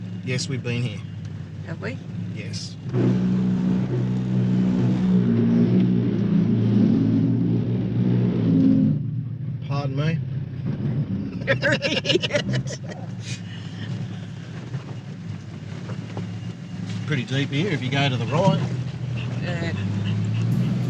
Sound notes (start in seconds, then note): 11.4 laughing